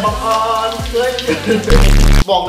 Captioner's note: sings off-key; gasps; laughs